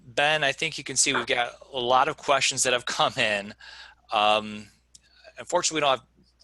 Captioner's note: laughing